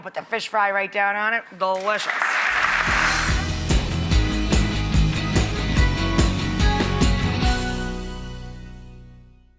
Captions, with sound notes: with the fish fry right down on it. Delicious. (applause) (upbeat music)